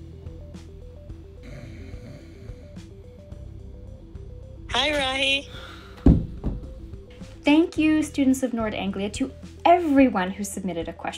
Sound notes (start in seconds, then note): 1.4 snoring